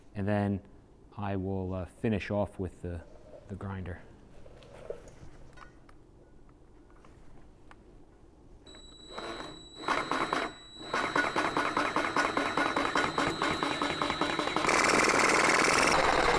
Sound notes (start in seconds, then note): 6.4 drill whirring; 13.6 drill whirring